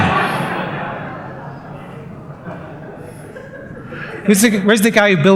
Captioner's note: laughter